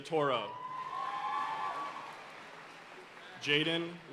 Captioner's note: audience cheering and applauding